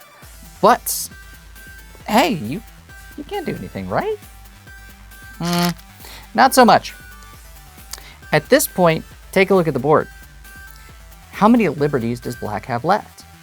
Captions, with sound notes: But, hey, you-- you can't do anything, right? Mm... not so much. (stones rattling) At this point, take a look at the board. How many liberties does black have left?